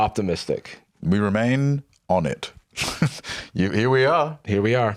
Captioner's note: laughs